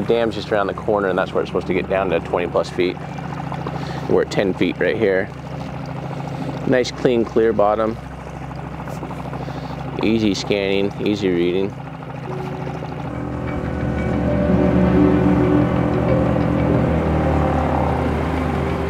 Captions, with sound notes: The dam's just around the corner and that's where it's supposed to get down to 20 plus feet. We're at 10 feet right here. Nice, clean, clear bottom, easy scanning, easy reading. (dramatic music) (boat spluttering)